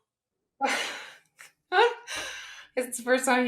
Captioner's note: laugh